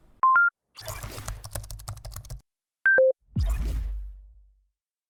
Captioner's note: beep and typing keyboard